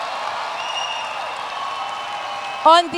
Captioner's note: cheers and Applause